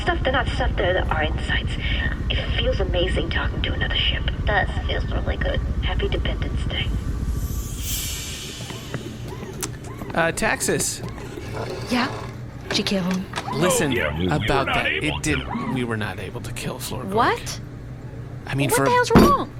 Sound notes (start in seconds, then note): 9.6 transition sound